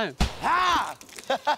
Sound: water balloon bangs; laughing

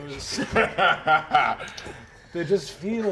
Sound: laughing

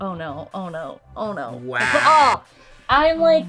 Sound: buzzer

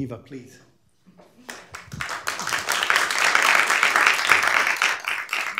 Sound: applause

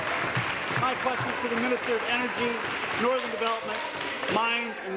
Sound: applause

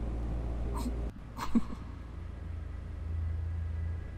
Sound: giggle

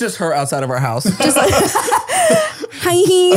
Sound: all laugh

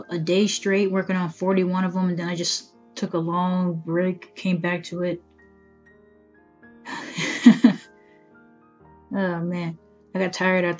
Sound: laughing

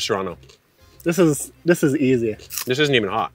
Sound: snaps

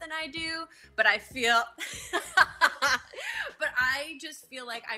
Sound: laughing

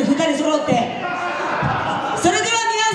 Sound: laughs

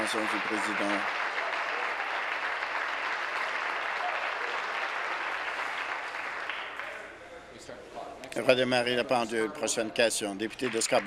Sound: applause

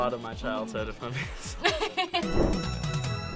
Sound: both laugh; upbeat music

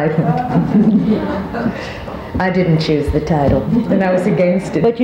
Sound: all chuckling

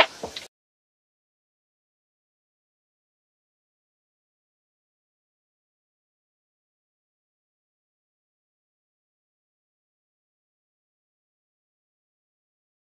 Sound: silence

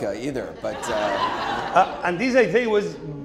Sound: audience laughing

